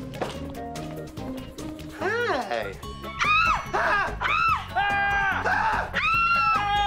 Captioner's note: mixed yelling